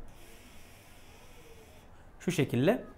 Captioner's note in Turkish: nargile sesi